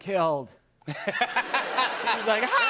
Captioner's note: laughter